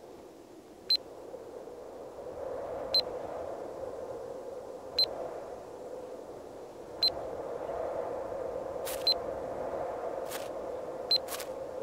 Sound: locator beeping

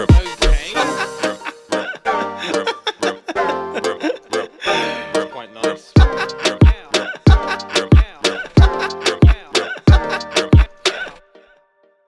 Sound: laughing

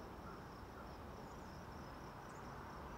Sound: birds chirping

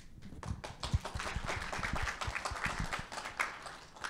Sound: audience claps

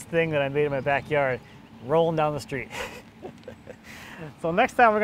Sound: laughs

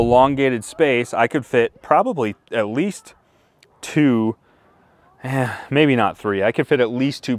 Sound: sighs

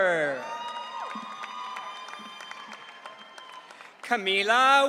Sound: audience cheering

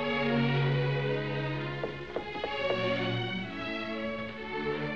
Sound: knocking

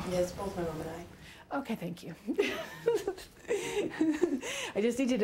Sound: giggling

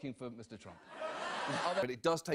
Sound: audience laughs

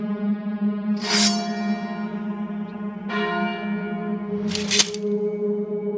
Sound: sword unsheathes; bell tolls; sword clinks

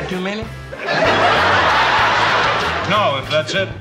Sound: laughter

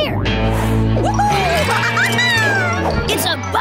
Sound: giggling

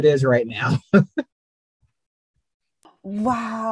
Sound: laughs

